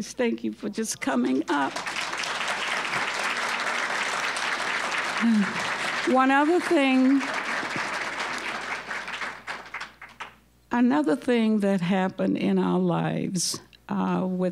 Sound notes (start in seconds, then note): 1.3 applause